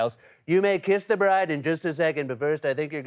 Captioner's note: As Trump